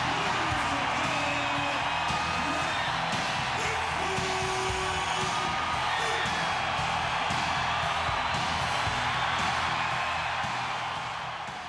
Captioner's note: applause